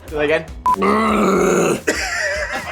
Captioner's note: groaning; laughing